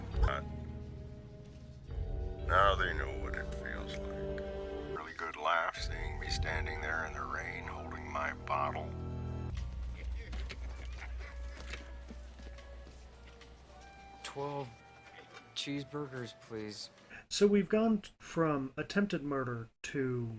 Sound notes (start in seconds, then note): 15.0 laughing